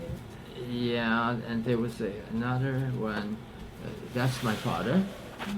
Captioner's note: papers rustling